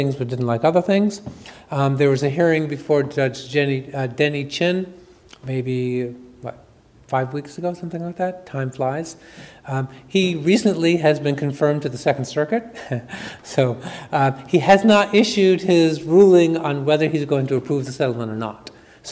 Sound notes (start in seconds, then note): 13.1 chuckles